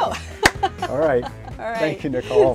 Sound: laughs and claps

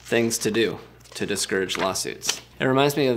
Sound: pages turning

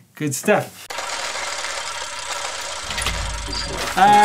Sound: gearing sound

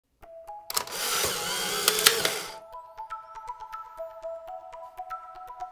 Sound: camera shutter clicking

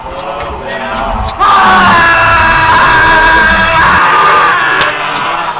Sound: screams

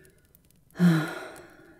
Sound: sighing deeply

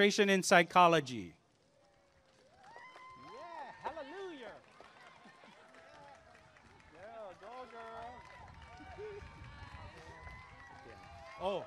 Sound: applause and cheering

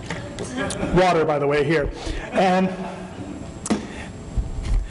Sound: laughter

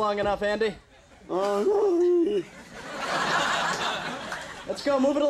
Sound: Andy mumbling

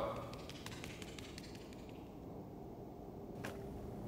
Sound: footsteps

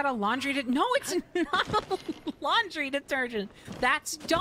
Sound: laughing

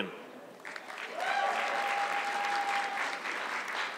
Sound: audience clapping

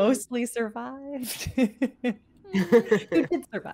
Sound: laughs

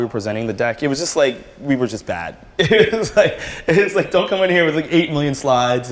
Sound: laughter

